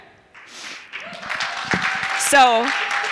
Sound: audience clapping

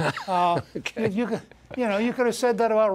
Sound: laughter

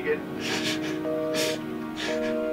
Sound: phone beeping

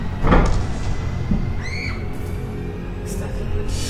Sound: Stephanie screams

